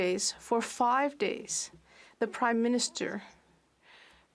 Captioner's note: speaking French